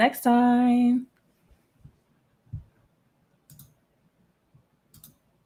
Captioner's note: computer mouse clicking